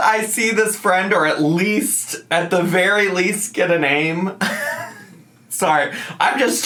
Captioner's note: laughs